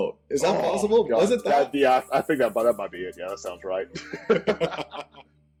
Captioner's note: laughter